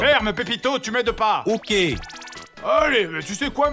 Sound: computer-generated voice

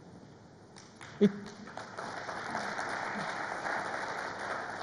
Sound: crowd applauds

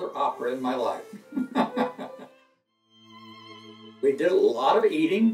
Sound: laughs

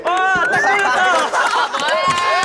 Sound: laughing

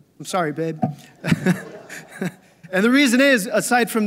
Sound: laughs

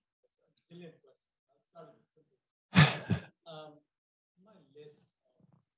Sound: student mumbling

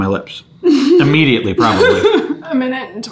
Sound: laughing

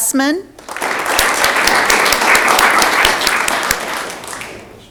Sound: audience clapping

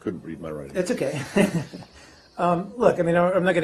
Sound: laughs

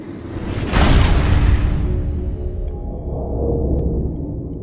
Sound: crash

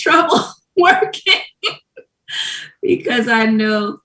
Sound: laughs

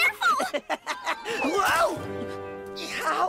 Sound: chuckles

